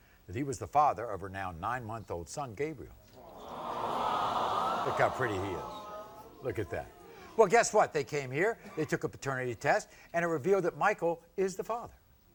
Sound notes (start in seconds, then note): 3.1 audience awing